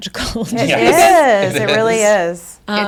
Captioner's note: group laughing